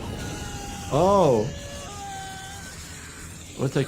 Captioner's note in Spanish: persona gritando